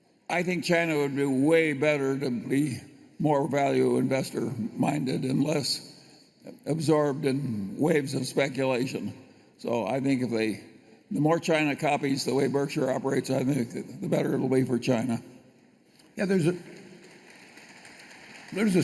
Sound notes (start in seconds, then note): 16.3 applause